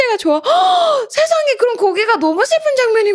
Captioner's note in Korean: 헉 소리